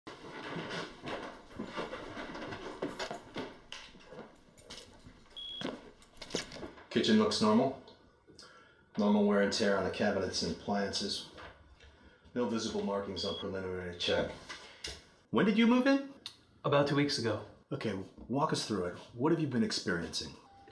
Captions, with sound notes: [PPD beeps] Kitchen looks normal Normal wear and tear on cabinets and appliances No visible markings on preliminary check When did you move in? About two weeks ago Okay, walk us through it. What have you been experiencing?